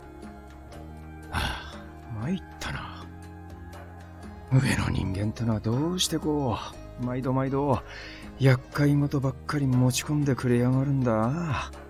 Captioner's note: sigh